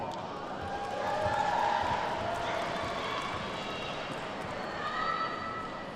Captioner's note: attendees whooping and clapping